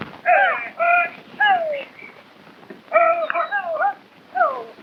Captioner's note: men shouting